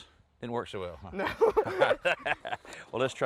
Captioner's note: both laughing